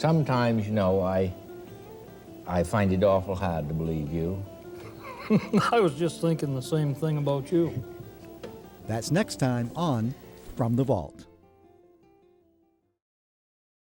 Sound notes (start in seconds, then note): 4.7 laughing; 11.4 gentle music